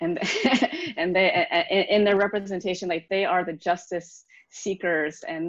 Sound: laughs

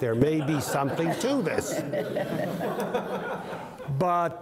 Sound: crowd laughing

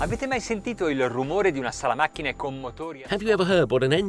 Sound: speaking in foreign language

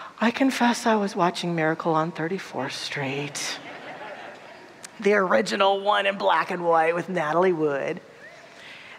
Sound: audience laughter

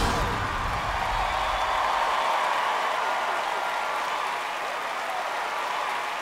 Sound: audience cheering and applauding

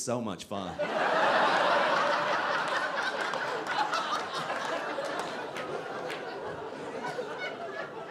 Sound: audience laughing

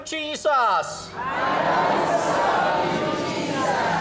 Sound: audience repeats in english

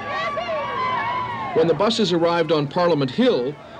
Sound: crowd cheering

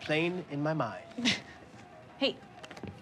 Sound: Jane laughs

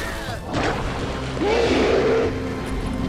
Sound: roaring

